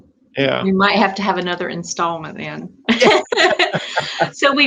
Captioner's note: laughter